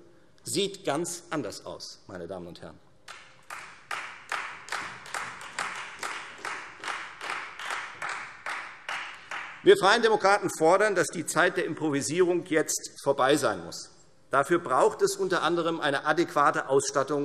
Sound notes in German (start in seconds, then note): 3.0 Beifall Freie Demokraten